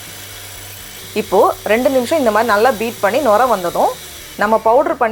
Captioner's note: frothing